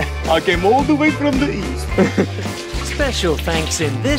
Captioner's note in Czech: S ruským přízvukem